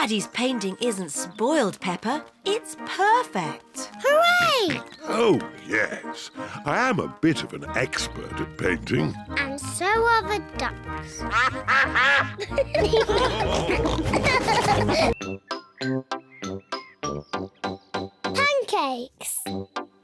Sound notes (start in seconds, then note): 11.2 quacking; 13.1 all laugh